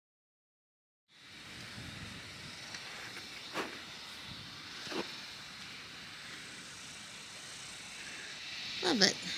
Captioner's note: the sounds of outside, including cicadas, fades in